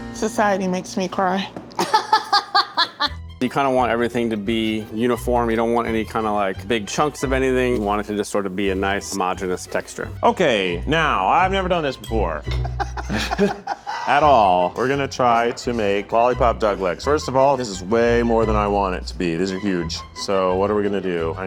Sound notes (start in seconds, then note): 1.8 laughing; 3.8 energetic classical music; 12.5 both laughing